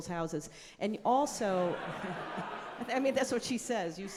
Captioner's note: audience laughing